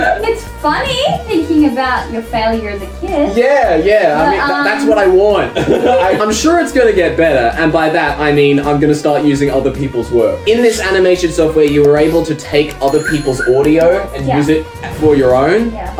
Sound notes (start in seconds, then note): 0.0 laughs; 5.4 both laugh